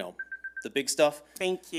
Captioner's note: timer beeping